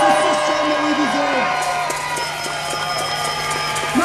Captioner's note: cheers